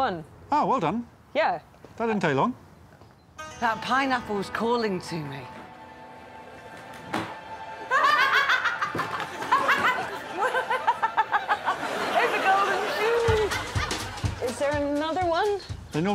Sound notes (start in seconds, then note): 7.8 laughing; 11.9 keeps laughing